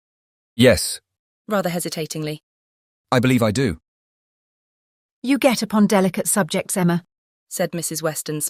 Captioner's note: rather hesitatingly